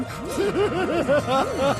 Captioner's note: laughs